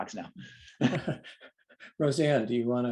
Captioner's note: laughter